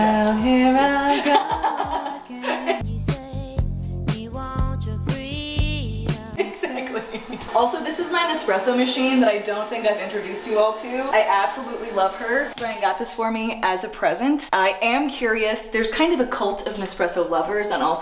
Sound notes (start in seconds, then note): 1.0 laughs